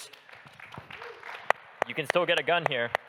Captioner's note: audience applauding